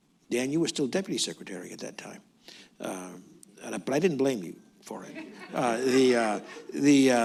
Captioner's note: laughter